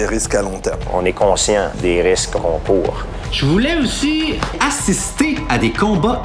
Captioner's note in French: none